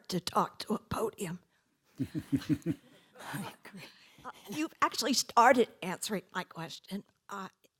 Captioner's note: laugh